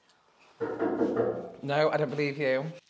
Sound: knocking

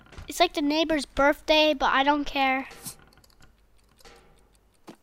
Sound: none

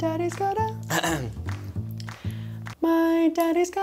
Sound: clears throat

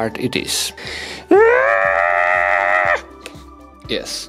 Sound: high-pitched noise

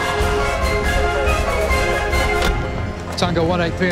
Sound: chattering on police radio

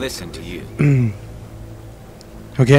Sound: clears throat

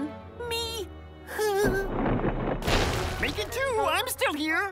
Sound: sighs; rumbling

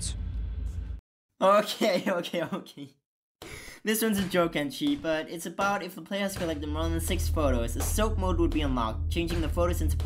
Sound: laughter

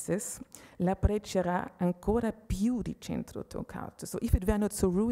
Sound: speaking Italian

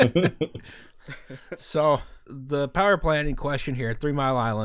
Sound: laughter

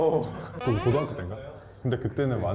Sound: is he crying periodically?

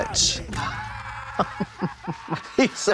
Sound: bone snapping

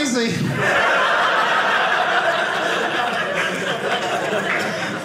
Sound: audience laughing

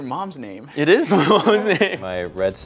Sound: laughs

